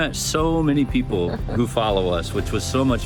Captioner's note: laughs